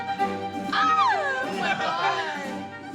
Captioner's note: classical music playing; shrieks